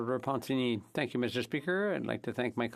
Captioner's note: speaking French